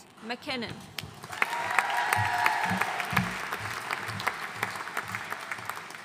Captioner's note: audience cheering and applauding